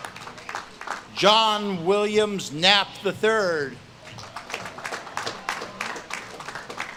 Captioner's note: audience claps and cheers